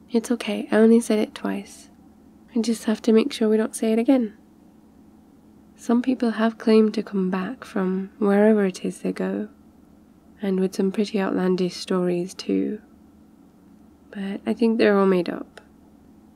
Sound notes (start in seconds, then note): none